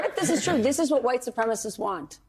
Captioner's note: laughs